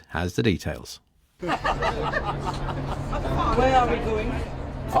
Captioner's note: laughing